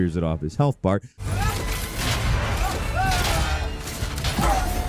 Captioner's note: characters grunting